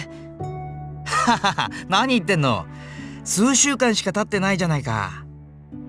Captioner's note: laugh